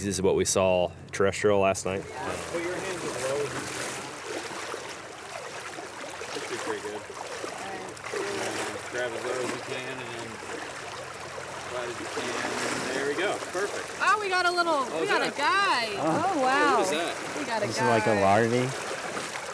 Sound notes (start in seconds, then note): 4.4 water splashing